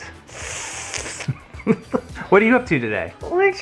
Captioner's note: inhales through teeth; laughs